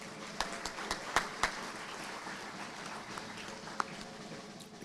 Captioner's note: audience applauding